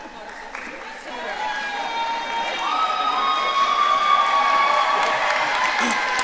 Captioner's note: audience cheering and applauding